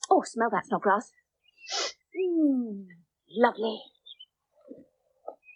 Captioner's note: Snodgrass Sniffs